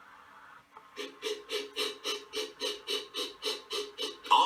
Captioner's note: engine chuffing